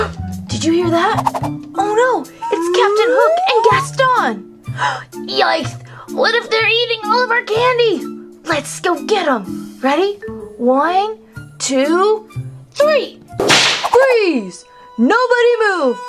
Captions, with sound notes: Did you hear that? Oh no, It's Captain Hook and Gaston. - Yikes, what if they're eating all of our candy? - Let's go get them. Ready? One, two, three! (whip cracking) Freeze! Nobody move.